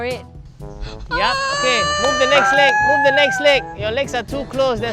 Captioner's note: screaming